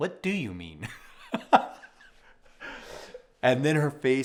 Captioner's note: laughs